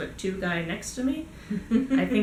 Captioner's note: giggles